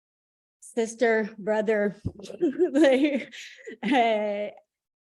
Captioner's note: chuckling